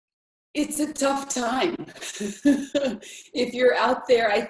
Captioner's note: laughs